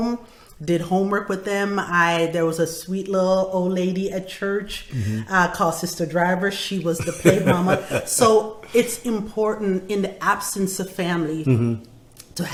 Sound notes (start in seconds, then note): 7.0 laughing